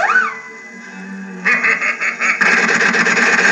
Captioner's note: laughing